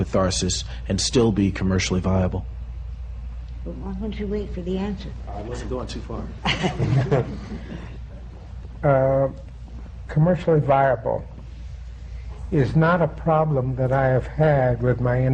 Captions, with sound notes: We've asked people to send in a synopsis and selected dialogue samples, because you know, I can guarantee someone will hold it. (LAUGHS) Whether they're going to read all the way through it, I couldn't guarantee that to anybody, just because it indeed takes so much time.